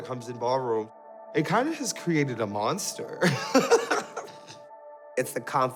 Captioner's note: laughs